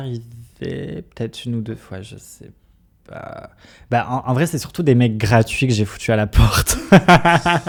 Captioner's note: laughs